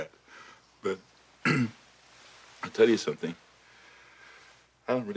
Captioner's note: clears throat